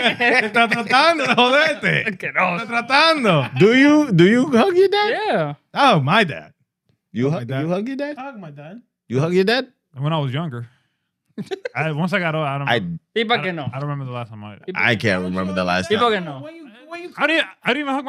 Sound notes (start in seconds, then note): 0.0 laughing; 0.6 speaking In Foreign Language